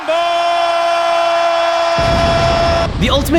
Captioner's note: audience cheering